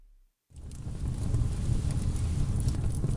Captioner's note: fire sound effect